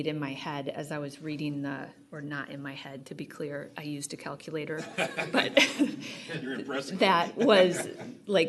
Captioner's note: laughter